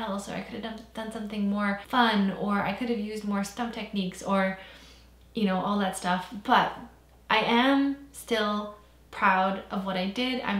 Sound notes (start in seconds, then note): none